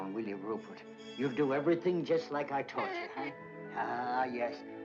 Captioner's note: Rupert chitters